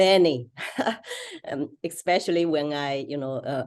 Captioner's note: laugh